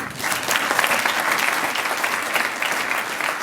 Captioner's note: applause